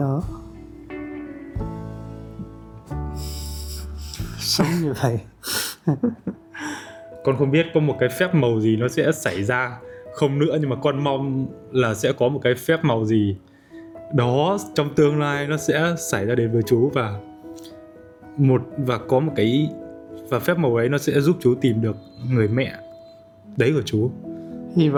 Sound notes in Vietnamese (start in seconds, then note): 3.0 khịt mũi; 5.8 tiếng cười